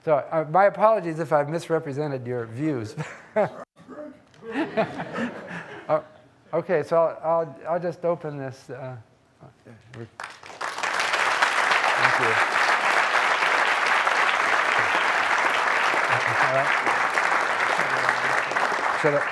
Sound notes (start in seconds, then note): 4.4 audience laughing; 10.0 audience applauding